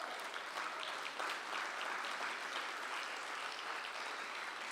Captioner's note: applause